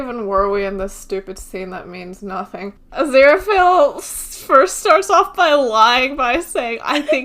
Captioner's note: laughing; laughs